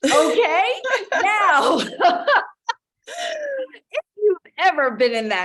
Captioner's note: laughing